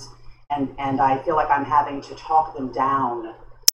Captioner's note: none